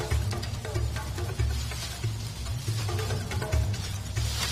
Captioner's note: birds chirping